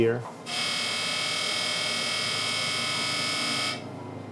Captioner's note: laser buzzes